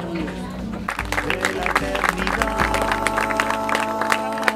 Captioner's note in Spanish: aplausos